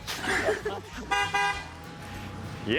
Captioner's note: car horn